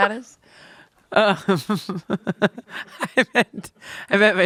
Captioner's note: everyone laughs